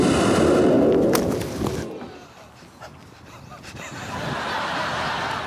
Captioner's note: bang